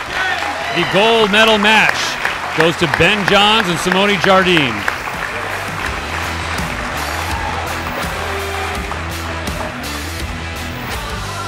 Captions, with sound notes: The gold medal match goes to Ben Johns and Simone Jardim. (audience applauding) (upbeat rock music)